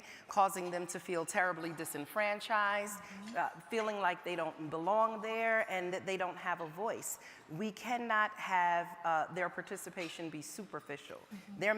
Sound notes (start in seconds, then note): none